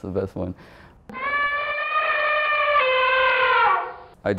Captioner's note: elephant trumpets